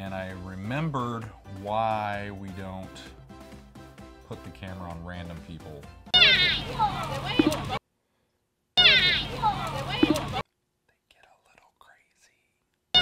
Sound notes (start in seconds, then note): 6.1 crazy lady warbles; 10.1 whispers; 12.7 crazy lady warbles